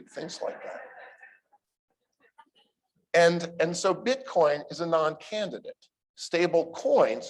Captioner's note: laughter